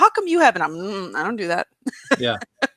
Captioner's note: laughs